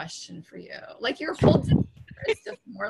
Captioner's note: laughing